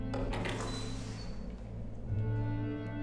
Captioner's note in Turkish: Kapı açılma sesi